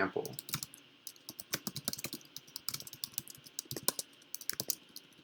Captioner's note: keyboard clicks